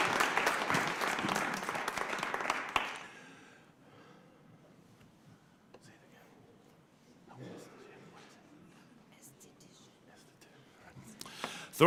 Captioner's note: cheers and applause